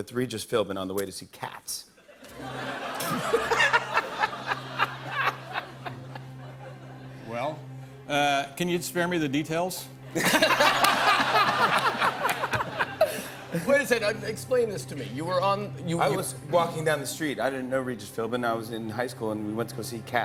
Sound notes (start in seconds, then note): 2.0 laughter; 10.1 laughter